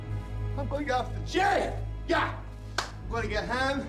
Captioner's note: claps hands